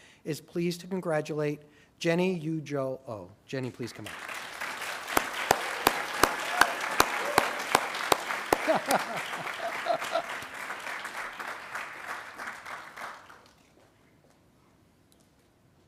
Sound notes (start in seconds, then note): 4.5 attendees applauding; 8.5 laughing